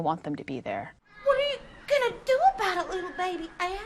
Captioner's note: southern accent